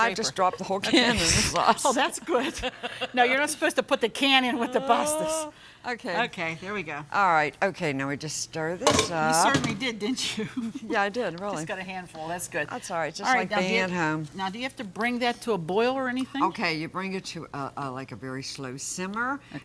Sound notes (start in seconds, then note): 0.1 laughing; 2.7 both laugh; 9.6 laughing